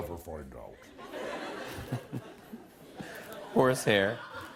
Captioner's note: laughter